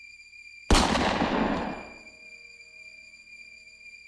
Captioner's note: gun firing